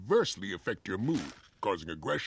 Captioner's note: bag rustles